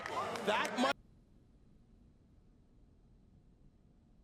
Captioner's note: silence